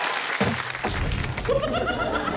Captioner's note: cheering, applause; clunk!; laughter